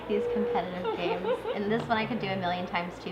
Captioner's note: giggling